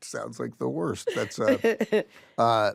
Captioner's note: chuckles